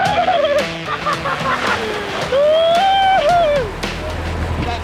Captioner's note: delighted whooping